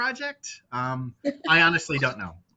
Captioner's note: chuckling